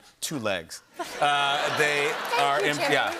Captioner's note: laughter